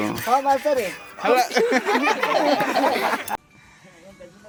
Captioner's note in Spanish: risas